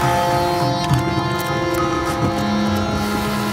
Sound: horn sounds

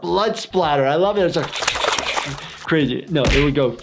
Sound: water splashes slower; water splashing

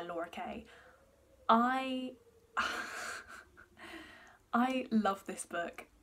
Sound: laughs

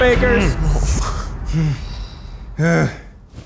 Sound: all grunting

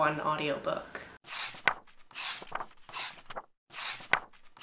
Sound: pages turning

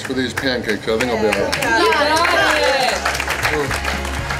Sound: crowd

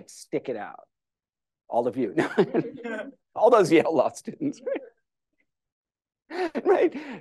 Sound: laughter

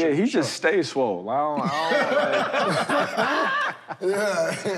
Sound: laughter

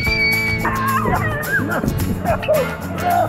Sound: squeals

